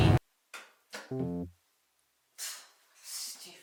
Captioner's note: bell dongs